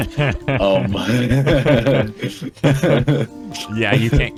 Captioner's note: laughing